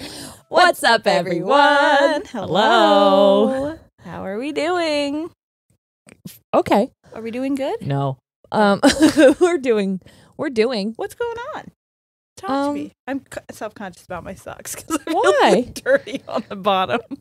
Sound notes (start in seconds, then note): 8.5 chuckles; 15.0 laughs